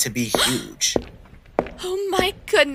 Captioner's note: Raelynn gasps